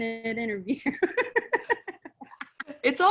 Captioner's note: laughs